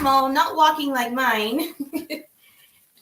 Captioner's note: laughs